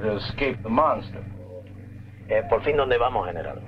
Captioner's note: Colonel Cabeza speaking in Spanish